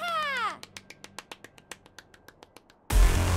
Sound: clapping

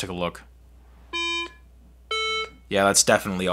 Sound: iPhone beeping

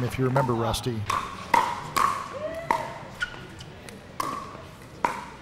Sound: ball bouncing

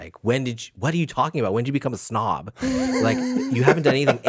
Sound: Justin laughs

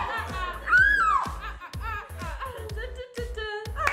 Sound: vocalizing

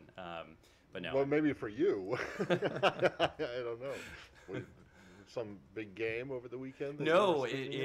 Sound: laughter

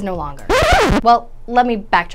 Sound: record scratching

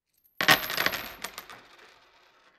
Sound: coin change tossed into wood

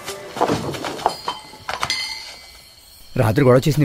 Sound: thuds

